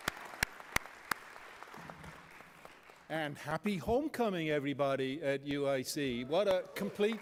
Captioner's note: applause; applause